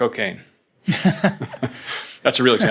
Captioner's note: both laughing